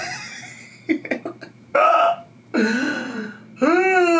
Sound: laughing

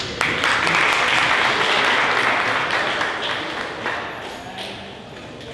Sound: audience applauding

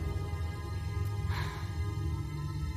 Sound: sighs

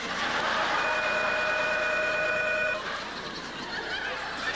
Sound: telephone rings

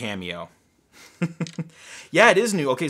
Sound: laughing

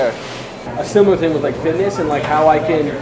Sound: voiceover

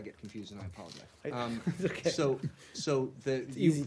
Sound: laughter

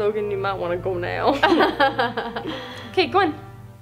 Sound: laughing

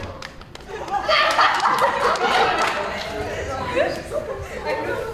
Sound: laughter

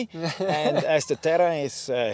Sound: man laughs

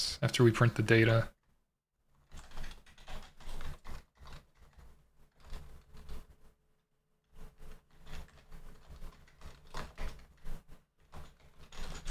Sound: typing

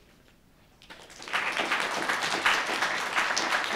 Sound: applause

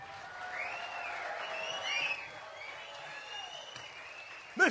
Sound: cheering and applause

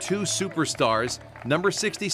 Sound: applause

